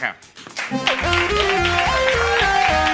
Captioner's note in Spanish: Aplausos